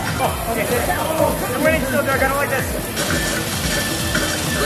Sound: water hissing

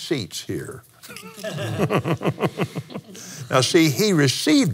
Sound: laughs

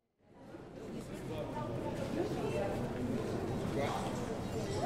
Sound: crowd talking

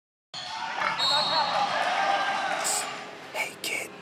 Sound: whistle blows

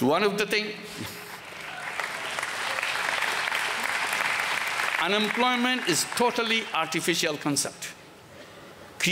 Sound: applause

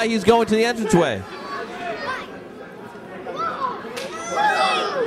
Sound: crowd talking

